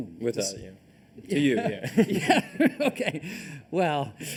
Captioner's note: laughter